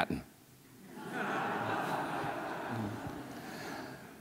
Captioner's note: audience laughs